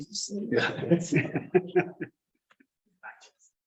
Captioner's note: members laugh